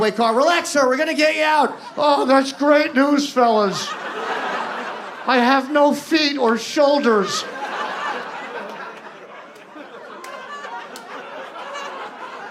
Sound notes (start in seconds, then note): 8.1 audience laughs